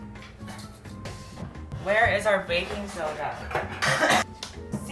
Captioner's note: cough